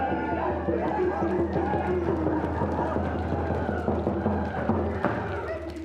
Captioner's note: applause